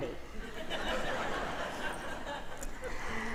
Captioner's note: audience laughing in acknowledgement